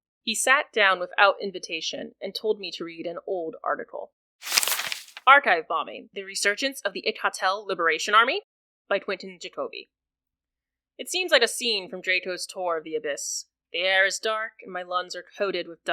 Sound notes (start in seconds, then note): 4.4 newspaper sound